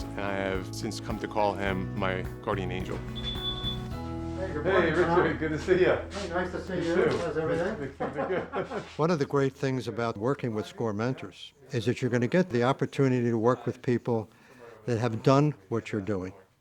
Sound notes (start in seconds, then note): 2.8 door chime; 6.6 laughing